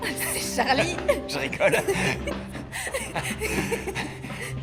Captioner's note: laughing